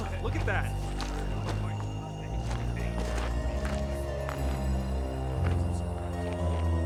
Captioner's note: soldiers murmuring; soldiers murmuring